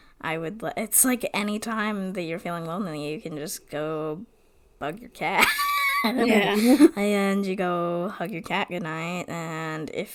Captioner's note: laughs